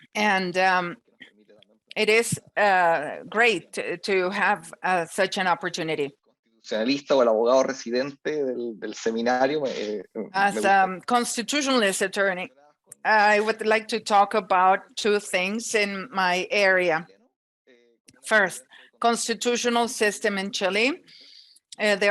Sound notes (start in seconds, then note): 6.8 speaks in Spanish